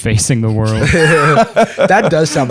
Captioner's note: laughter